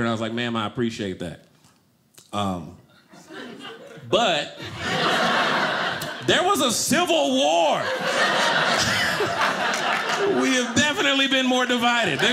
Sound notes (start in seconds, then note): 7.5 audience laughing